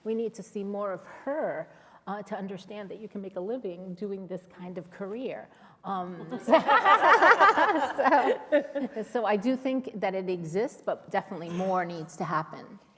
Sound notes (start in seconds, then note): 6.3 laughter